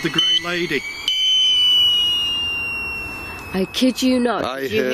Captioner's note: energy detector device beeping and whistling